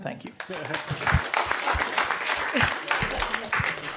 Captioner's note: audience clapping